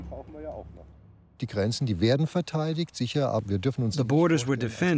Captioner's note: speaking German